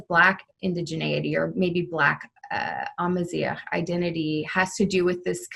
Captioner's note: speaking Arabic